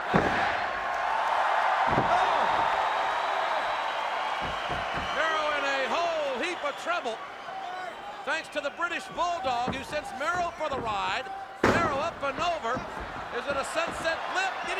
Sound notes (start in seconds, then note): 1.1 crowd cheering